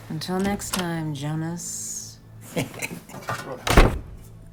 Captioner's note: chuckles